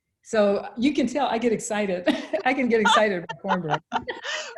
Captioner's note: both laugh